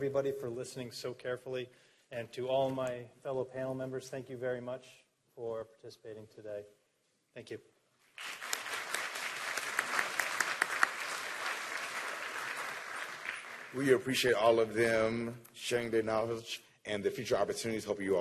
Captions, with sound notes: SO CAREFULLY AND TO ALL MY FELLOW PANEL MEMBERS, THANK YOU VERY MUCH FOR PARTICIPATING TODAY. THANK YOU. [APPLAUSE] >> WE APPRECIATE ALL OF THEM SHARING THEIR KNOWLEDGE AND THE FUTURE OPPORTUNITIES, I HOPE YOU ALL WERE TAKING NOTES.